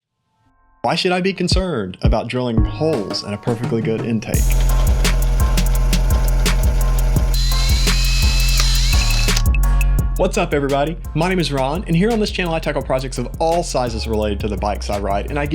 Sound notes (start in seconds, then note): 4.6 mellow music; 7.7 drill whirs